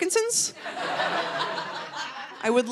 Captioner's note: audience laughing